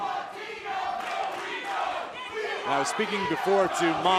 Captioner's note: fans chanting